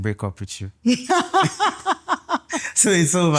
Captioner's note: laughing